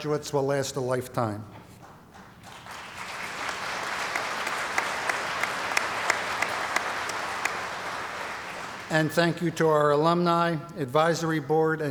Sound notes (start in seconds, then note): 1.8 applause